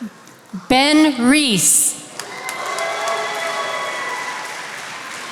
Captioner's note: attendees applauding